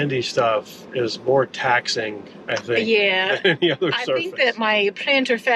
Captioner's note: laughs